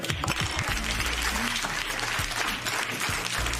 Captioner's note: applause